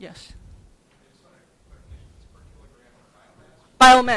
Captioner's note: murmurs